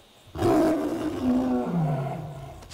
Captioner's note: frightened screaming; roars